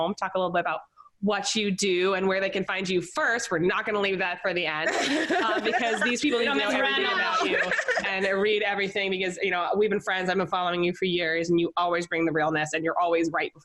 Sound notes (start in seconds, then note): 4.8 laughing